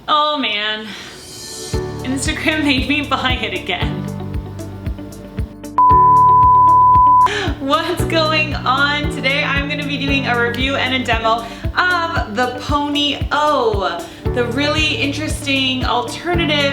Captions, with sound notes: - Oh man Instagram made me buy it again. (beep) What's going on? Today I am going to be doing a review and a demo of the Pony O, the really interesting alternative